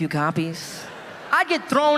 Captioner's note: audience laughing